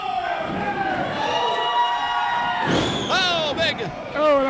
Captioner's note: crowd cheering